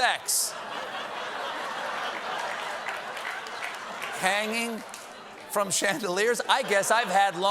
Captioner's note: laughter